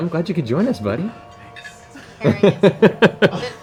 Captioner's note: whispering